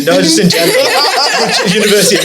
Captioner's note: laughs